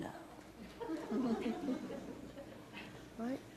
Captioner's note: laughter